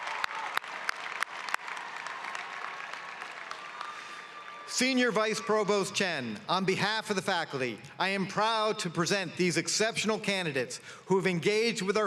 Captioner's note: cheering and applause